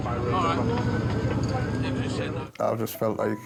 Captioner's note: people chattering